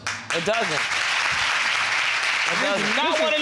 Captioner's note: audience applauding